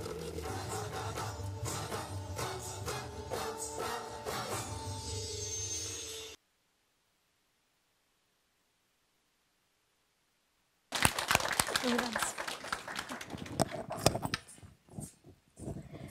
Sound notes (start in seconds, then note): 10.9 audience applause